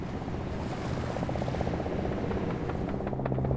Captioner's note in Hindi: हेलिकॉप्टर की आवाज़